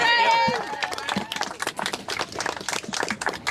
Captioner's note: applause